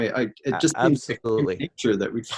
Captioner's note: microphone cuts out